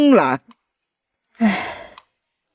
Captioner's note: sigh